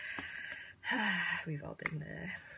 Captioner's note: sighs